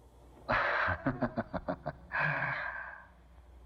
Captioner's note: chuckles